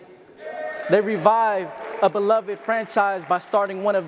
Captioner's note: audience applause and cheers